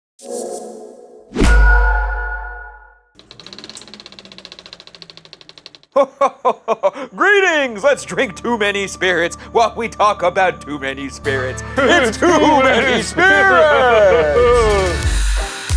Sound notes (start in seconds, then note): 1.4 logo thudding; 1.5 logo dinging; 5.9 laughing; 14.1 laughing